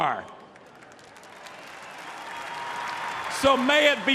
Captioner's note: applause